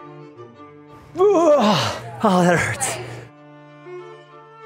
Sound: grunting

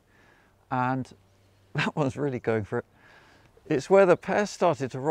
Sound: chuckling

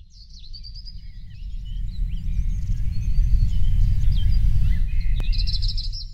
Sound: birds Chirping

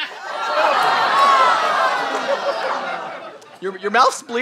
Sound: audience disgusted

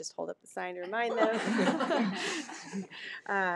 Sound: people laughing

